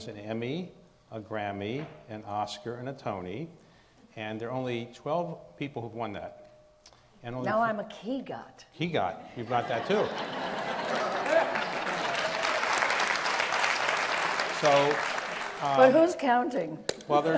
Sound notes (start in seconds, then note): 10.9 audience laughs; 12.5 audience applauds